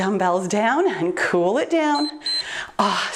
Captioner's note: timer beeps